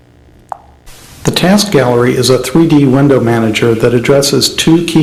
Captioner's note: voiceover